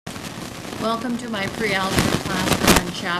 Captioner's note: voiceover